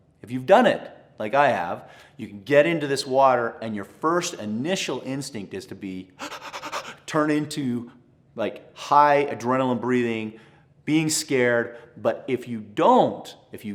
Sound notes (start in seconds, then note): 6.2 pants